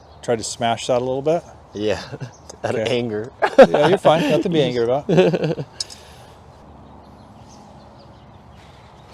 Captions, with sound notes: Tried to smash that a little bit. Yeah. Out of anger. [laugh] Yeah, you're fine, nothing to be angry about. [laugh]